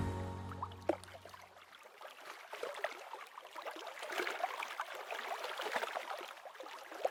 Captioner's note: quiet water